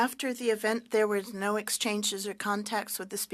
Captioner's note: speaking French